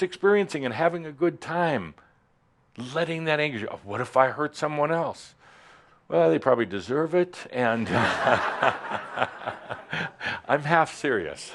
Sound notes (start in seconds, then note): 7.8 laughter; 10.7 chuckles